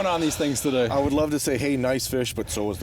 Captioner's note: voiceover